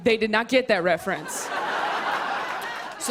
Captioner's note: laughter